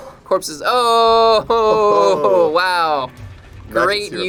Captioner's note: laughs